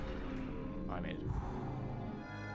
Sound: sigh of relief

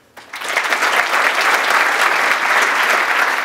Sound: applause

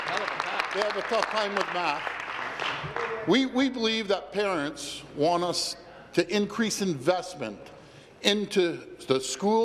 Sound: applause

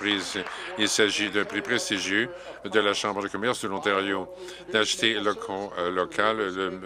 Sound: some Applause

